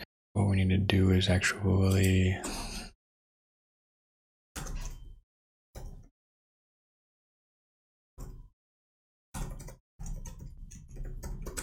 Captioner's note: blank Audio